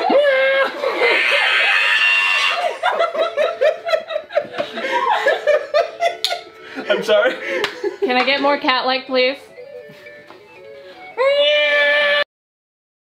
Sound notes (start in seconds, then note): 0.0 pained groan; 2.5 laughter; 10.9 screech